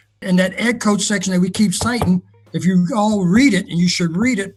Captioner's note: knocks on desk